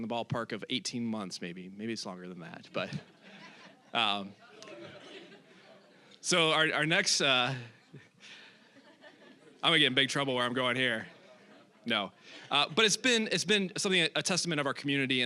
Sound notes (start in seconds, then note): 2.7 audience laughing; 7.4 audience laughing